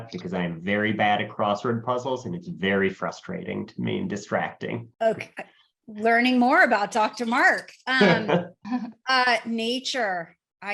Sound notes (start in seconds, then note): 7.9 laughs; 8.0 chuckles